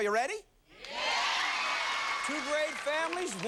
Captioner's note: cheers and applause